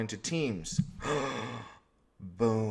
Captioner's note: gasp